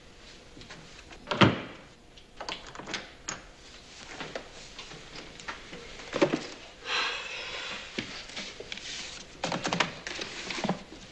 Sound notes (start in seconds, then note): 1.4 lock clicks